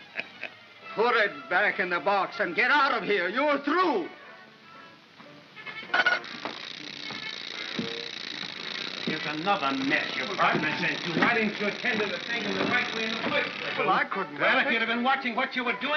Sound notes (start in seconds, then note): 5.9 winding noise